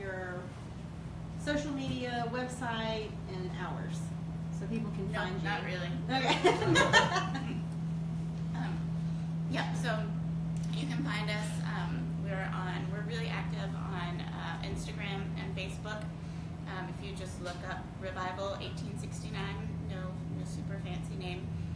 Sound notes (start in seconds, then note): 6.2 laughter